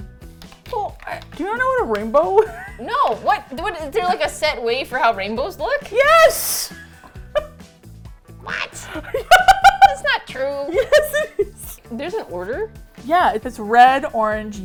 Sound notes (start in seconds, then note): 2.3 laughs; 3.2 defensively; 6.3 squacking voice; 8.6 laughs